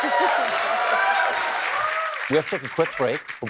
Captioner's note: cheering